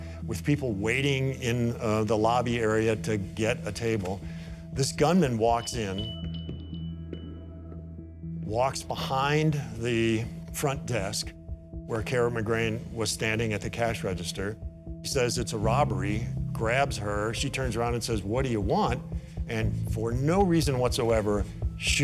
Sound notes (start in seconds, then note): 5.5 bell chimes